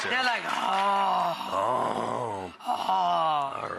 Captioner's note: hungry noises